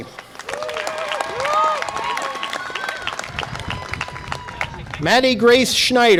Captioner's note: audience applause and cheer